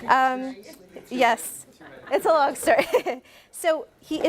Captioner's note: laughs